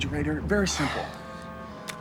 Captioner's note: sighs